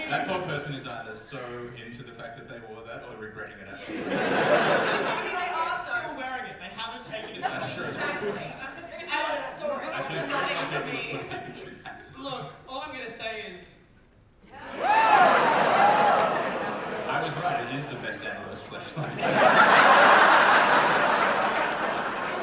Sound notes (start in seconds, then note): 15.6 audience reaction; 21.1 audience laugher